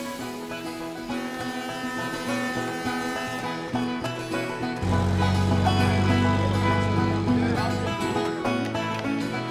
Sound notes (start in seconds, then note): 1.0 horn blasting